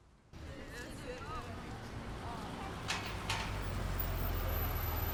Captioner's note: kids chattering